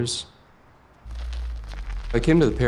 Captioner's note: car tires roll across pavement